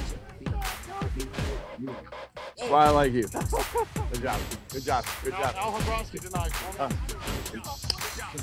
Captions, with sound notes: That's why I like you. (Laughter) Good job. Good job. Good job.